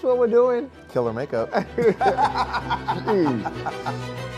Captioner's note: laughs